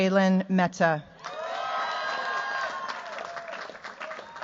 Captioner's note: cheers, applause